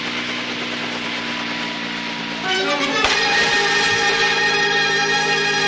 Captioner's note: splash